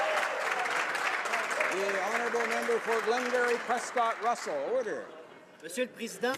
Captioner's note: some Applause